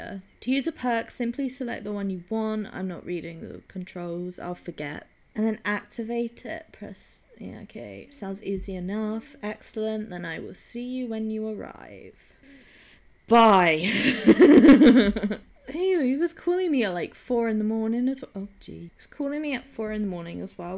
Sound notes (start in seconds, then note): 12.7 exasperated; 13.8 laughing